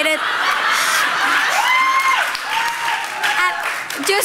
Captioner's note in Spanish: Risas